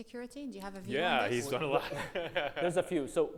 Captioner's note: laughs